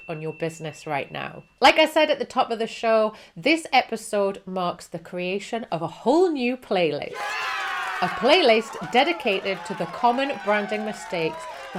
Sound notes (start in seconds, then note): 7.1 audience cheering